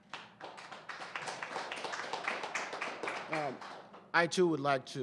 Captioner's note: applause